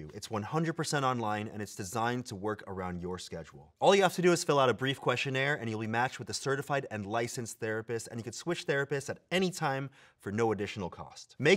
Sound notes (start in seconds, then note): none